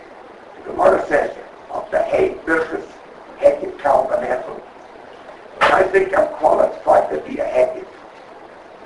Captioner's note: Yiddish